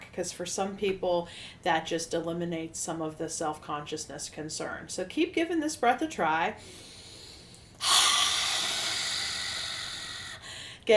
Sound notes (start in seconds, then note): 6.6 inhale; 7.8 loud exhale